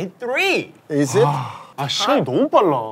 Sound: sigh

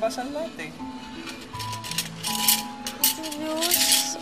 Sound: cutlery clanging

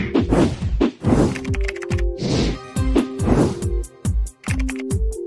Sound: typing sounds

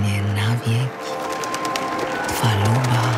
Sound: applause, cheers

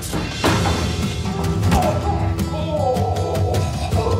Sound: groans

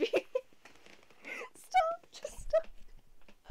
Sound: laughter

